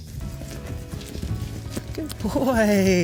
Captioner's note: horse galloping